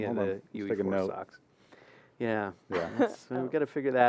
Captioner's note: laughter